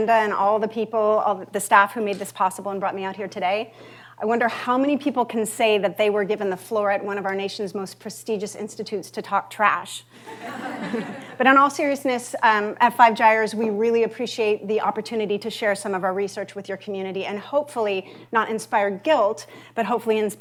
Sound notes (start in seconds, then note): 10.2 laughter